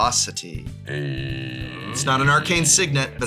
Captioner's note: supportive metal noise